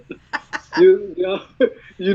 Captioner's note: laughs